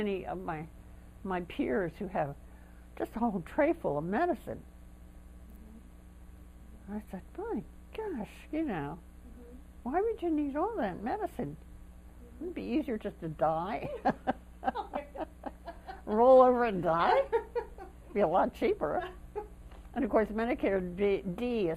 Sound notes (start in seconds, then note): 13.8 laughter